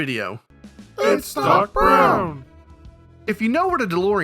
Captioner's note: children's Voices